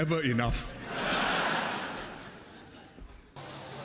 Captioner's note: laughter